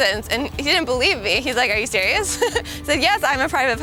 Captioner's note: laughs